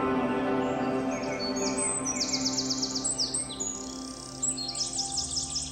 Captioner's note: birds chirping